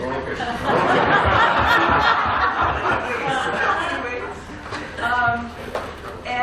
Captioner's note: laughter